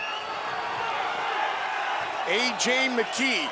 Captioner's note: audience cheering